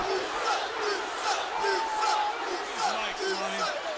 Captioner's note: audience chanting